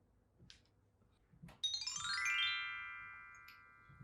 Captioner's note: chime sound